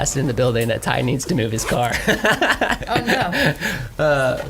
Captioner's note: laughs